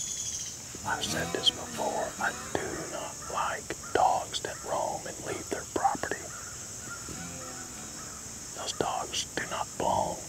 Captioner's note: whispering